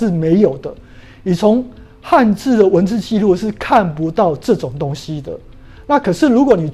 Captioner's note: chinese words